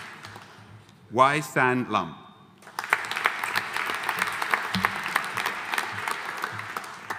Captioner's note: audience applauding